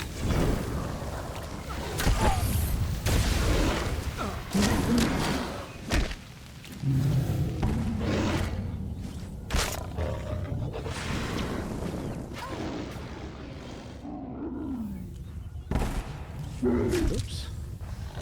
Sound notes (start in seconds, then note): 3.0 exploding